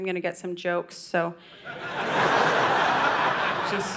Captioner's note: audience laughing